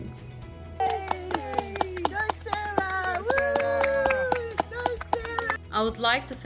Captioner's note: clapping